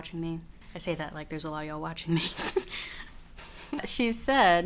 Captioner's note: laughs